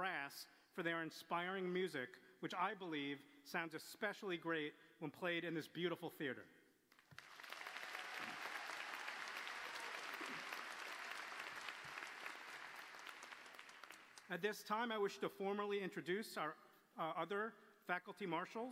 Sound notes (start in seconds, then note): 6.9 applause